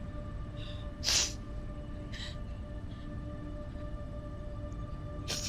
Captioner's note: Kathleen sniffling